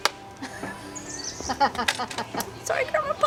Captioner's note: mom laughing